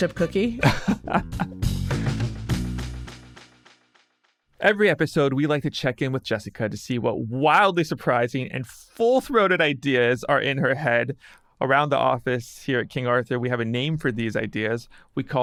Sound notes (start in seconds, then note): 0.0 person laughing; 2.1 upbeat music